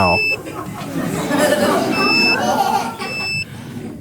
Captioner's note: device beeping